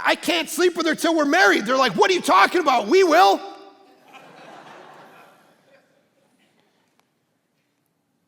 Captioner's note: congregation laughing